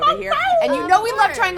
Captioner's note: howls